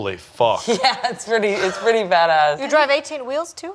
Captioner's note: laughing